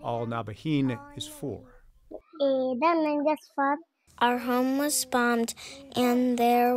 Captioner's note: through translator